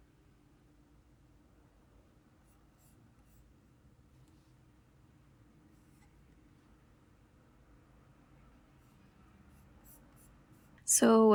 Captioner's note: silence